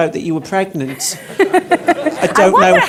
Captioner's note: everyone laughs